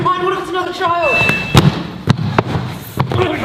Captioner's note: button pressed noise